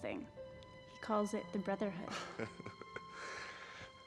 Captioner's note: chuckles